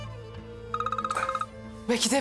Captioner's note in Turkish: Telefon çalar